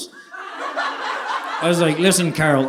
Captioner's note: audience laughing